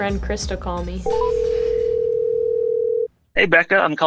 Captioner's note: phone ringing